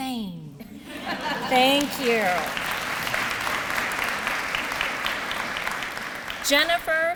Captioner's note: applause